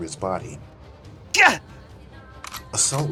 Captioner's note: grunts in pain